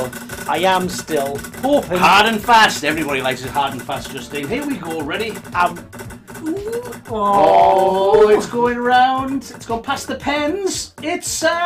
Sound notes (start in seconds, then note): 5.5 groaning